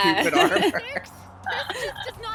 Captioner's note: laughter